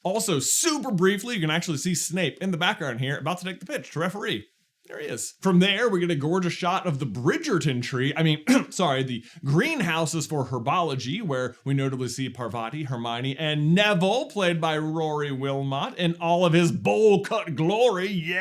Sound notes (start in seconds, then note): 8.4 cough